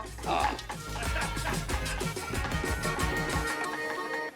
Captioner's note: laughs